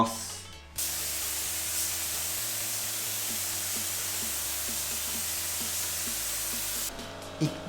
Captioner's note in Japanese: 塗装音